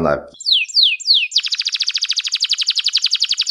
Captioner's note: canary singing